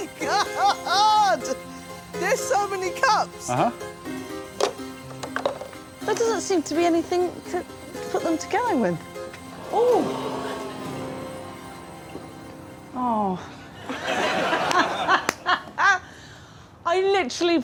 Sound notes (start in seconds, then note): 9.5 audience exclaims; 13.8 audience laughs; 15.6 laughs